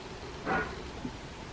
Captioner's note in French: bruit métallique